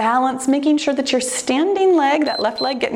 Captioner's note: timer beeps